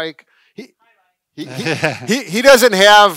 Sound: laughing

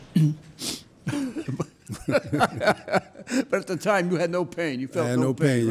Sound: laughing

